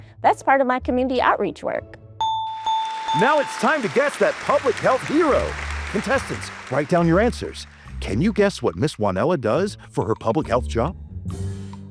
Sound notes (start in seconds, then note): 2.2 bell ringing